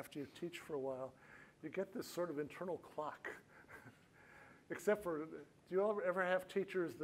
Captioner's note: laughs